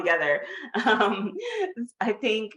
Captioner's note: chuckles